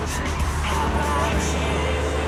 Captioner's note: plane engine roaring